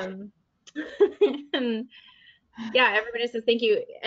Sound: laughs

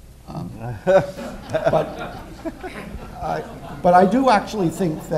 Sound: laughter

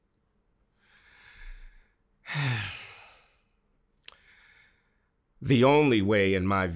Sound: breathes deeply

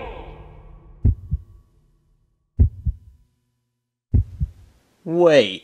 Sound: heartbeat booming

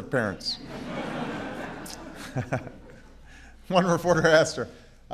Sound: laughter

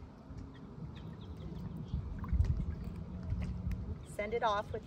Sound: birds chirping

